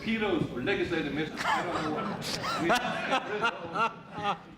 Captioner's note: crowd laughing